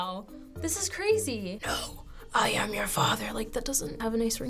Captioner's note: raspily